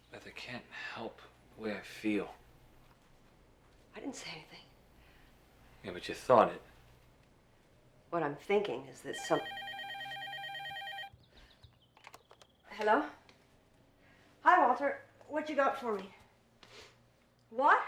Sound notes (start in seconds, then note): 9.4 ringing